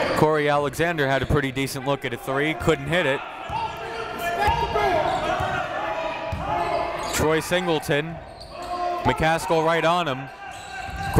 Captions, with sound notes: Cory Alexander had a pretty decent look at a three, couldn't hit it. (crowd talking) (coaches yelling) Troy Singleton, McCaskell right on him.